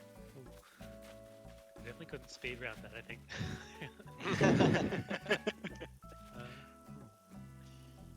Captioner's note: laughter